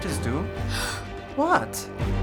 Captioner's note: Ivy gasps